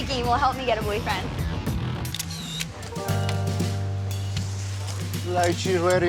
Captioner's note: shutter snapping